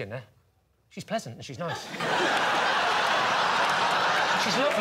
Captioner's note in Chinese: 笑声